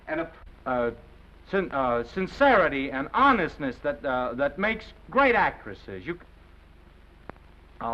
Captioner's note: stammers